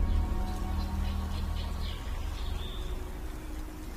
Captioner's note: birds chirping